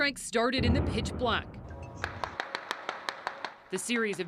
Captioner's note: explosion